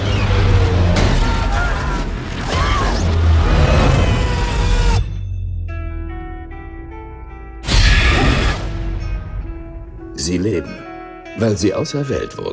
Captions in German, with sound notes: (Schreien) (Kreischen) Sie leben... weil sie auserwählt wurden.